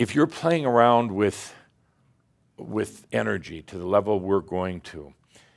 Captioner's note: none